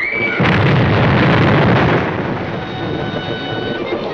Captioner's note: explosion; Frances screaming; upbeat dramatic music